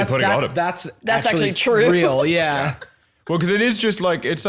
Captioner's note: laughs